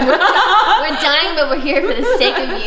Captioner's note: laughter